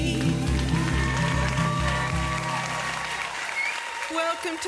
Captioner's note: audience applause